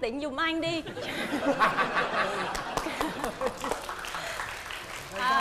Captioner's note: laughing; applause